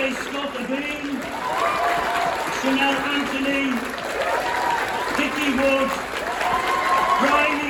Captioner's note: cheering